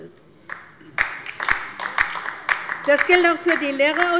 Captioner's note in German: Beifall bei der LINKEN